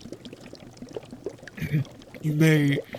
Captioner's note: Snape clears his throat